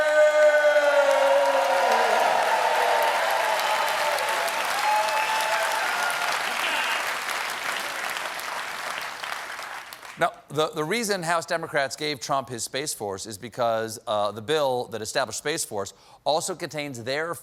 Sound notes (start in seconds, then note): 3.9 cheers and applause